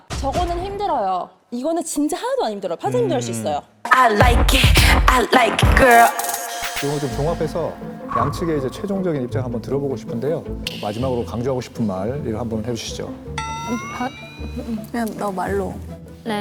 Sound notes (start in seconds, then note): 6.8 final-stretch sound effect; 13.4 sound effect of asking something